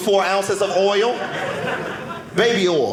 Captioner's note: audience laughing